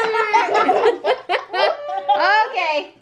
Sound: laughing

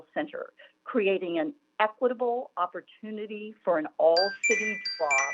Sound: chime

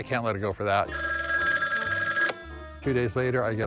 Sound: phone rings

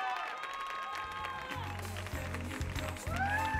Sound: audience cheering and applauding

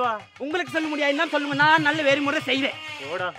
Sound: Speaking in Tamil

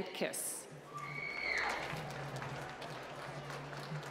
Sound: applause

